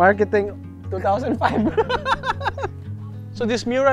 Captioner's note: laughs